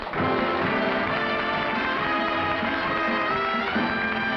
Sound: applause

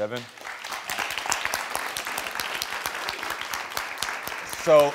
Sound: audience applauding

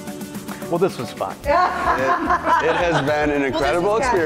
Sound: laugh

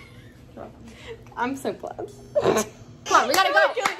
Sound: laughter

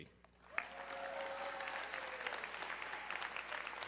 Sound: audience cheering

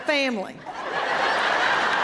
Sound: laughter

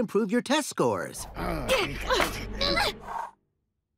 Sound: growling

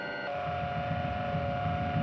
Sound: humming

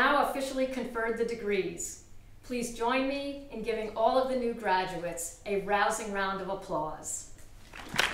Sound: applause

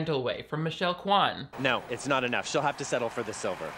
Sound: crowd cheering

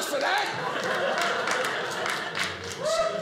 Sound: audience laughing

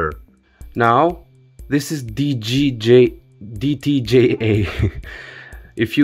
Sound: chuckles

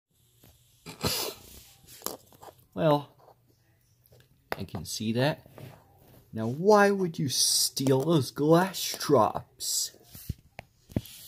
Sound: sniffs

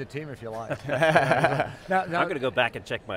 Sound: laughs

